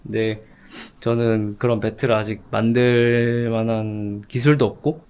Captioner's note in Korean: 콧방귀